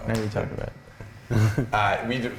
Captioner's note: chuckles